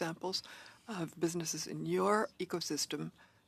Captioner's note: speaking French